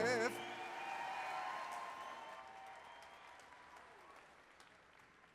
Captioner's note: applause, cheering